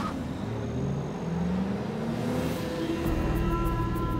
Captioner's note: engine roars; tyres screech; sinister music builds